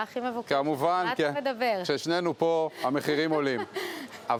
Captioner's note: laughs